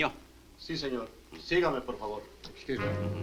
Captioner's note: Marlowe speaks Spanish; Mario speaks Spanish